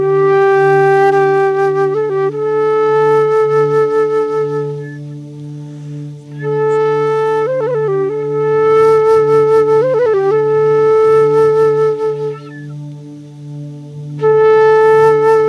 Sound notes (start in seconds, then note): none